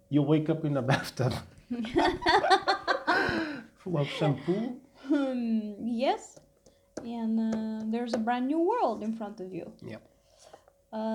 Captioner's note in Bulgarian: Смях